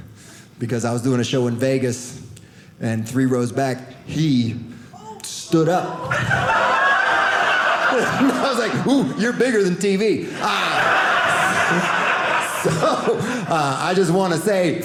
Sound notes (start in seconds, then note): 5.9 audience laughing